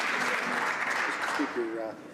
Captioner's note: some Applause